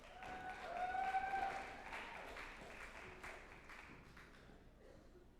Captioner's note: group applauding and cheering